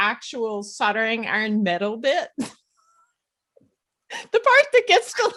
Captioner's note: laughs